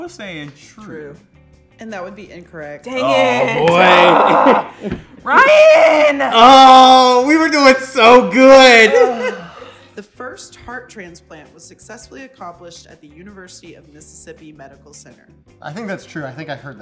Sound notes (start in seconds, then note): 3.7 laughs; 5.7 shrilly; 8.9 exhales audibly